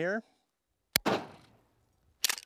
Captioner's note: bang